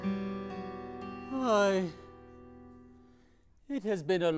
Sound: gentle guitar music; sighs

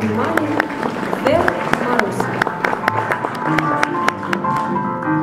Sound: applause

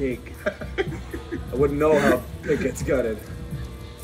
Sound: laugh

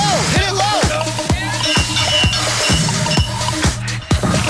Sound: bell rings; techno music

